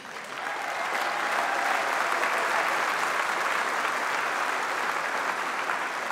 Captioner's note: applause